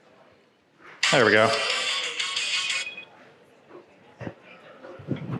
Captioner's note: ringtone ringing